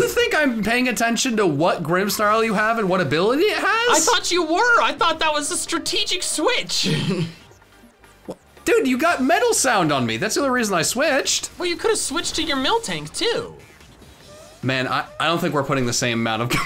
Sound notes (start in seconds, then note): 6.8 chuckles; 16.2 laughs